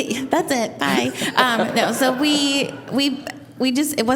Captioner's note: laughing